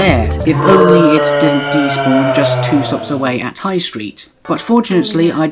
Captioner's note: comically long Bruh of annoyance